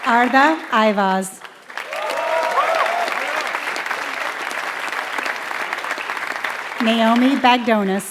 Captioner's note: applause